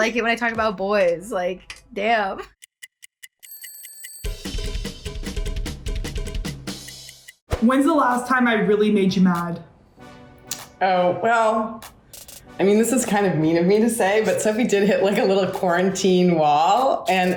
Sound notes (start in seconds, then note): 1.9 clock ticking; 2.5 upbeat music